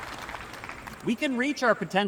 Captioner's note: applause